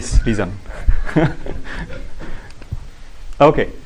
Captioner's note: laughter